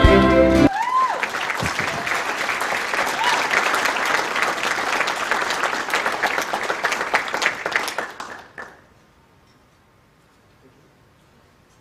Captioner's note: cheering and applause